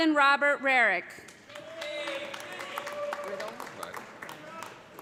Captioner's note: cheers and applause